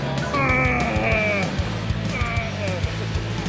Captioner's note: groaning